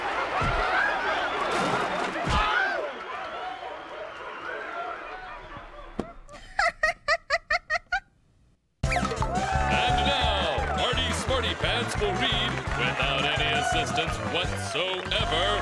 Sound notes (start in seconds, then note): 6.2 laughing